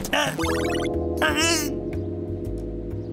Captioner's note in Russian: Звуки из компьютера